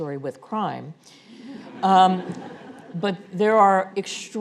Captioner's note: audience laughing